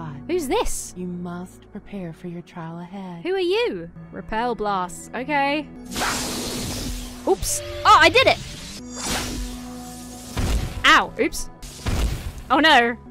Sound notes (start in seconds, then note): 0.0 disembodied Voice; 5.9 spell whooshes; 8.9 magic hisses